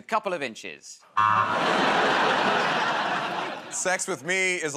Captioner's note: laughter, buzzer